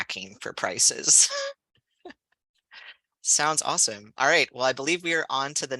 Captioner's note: laughter